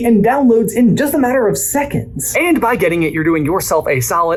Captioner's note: none